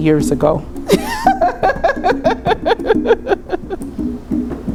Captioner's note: laughs